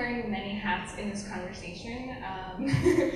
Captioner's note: laughs